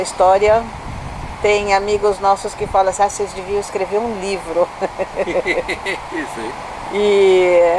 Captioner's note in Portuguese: risos